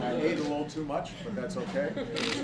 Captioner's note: laughter